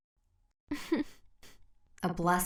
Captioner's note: chuckle